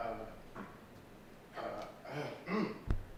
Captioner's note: coughs